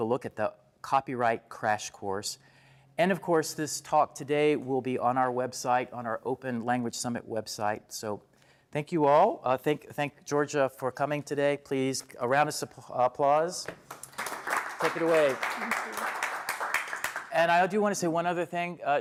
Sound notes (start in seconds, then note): 13.7 applause